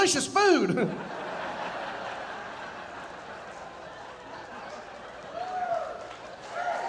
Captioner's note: audience laughing, cheering and applauding